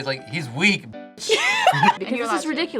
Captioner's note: both laugh